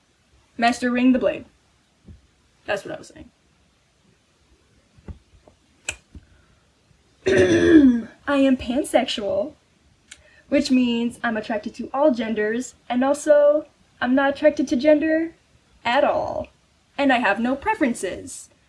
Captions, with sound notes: Mastering the blade. That's what i was saying. *clears throat* I am pansexual which means i'm attracted to all genders and also, i'm not attracted to gender at all. And, i have no preferences